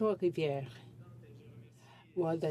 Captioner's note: speaking French